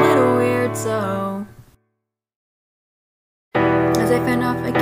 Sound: awkward silence

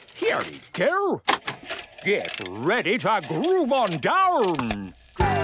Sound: clicks, whirring; disco music plays

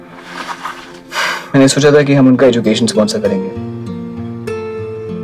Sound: sighs

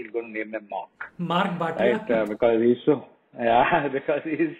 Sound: speaking in foreign language

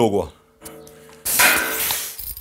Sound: bang

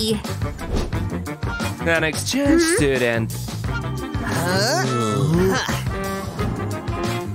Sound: making excited sounds

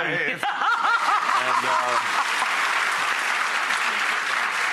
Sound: audience applause

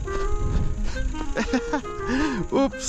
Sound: laughing

